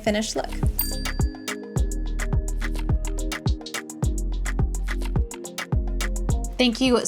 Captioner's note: bell dings; dance music continues